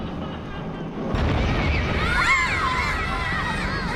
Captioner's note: screaming